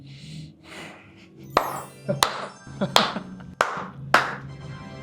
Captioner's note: smile & Applause